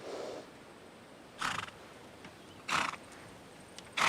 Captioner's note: horse exhales